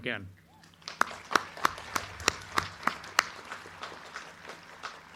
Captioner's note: crowd cheering